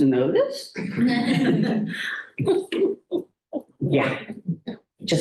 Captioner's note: laughter